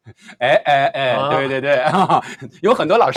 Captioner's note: laughs